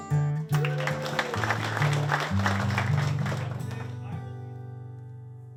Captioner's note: cheers